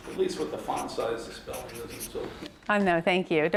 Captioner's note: murmurs